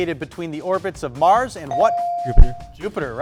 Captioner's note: buzzer dings